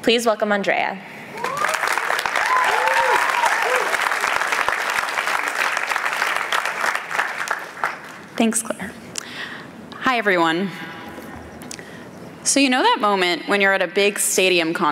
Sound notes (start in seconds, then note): 1.3 applause